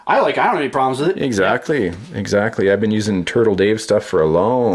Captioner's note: voiceover